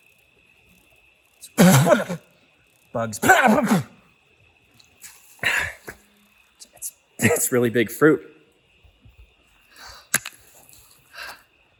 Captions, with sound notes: (Chuck spitting) Bugs. (spitting) It's really big fruit.